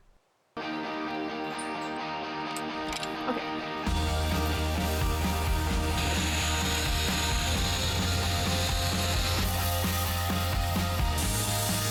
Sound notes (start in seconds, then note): 0.3 exciting music; 6.3 whirring